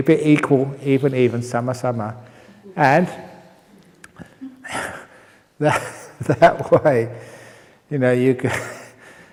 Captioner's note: chuckle